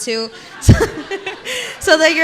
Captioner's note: participants laughing